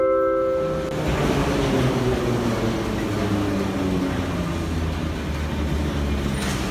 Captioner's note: arrival of train at the station